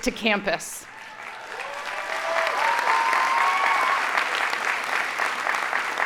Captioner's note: audience cheering and applauding